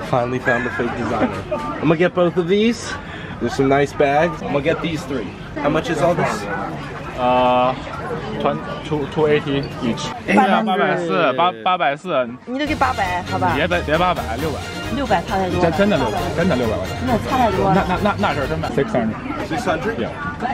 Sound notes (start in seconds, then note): 11.5 speaking Chinese